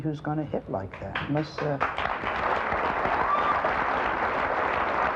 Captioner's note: audience applauds